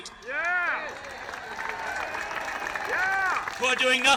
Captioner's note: crowd applauds